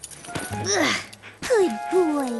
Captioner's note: grunt